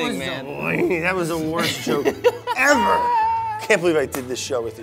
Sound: laughs

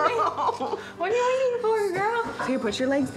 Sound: laughs

